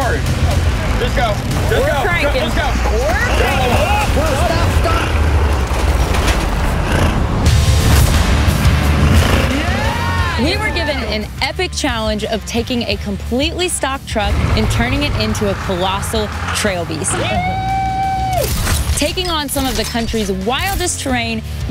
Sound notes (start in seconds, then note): 0.2 music intensifies; 2.6 all exclaim; 7.3 upbeat music